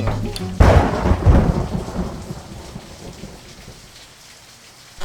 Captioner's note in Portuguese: Barulho de raio